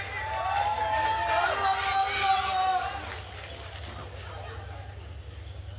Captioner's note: attendees cheering and applauding